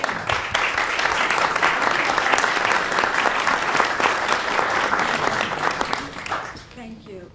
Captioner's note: clapping